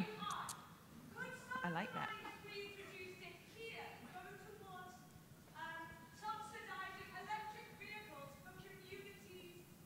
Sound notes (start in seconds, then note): 0.1 speaking faintly off mic; 2.6 speaking faintly off mic